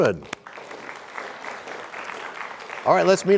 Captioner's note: applause